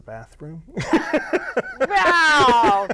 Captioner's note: laughing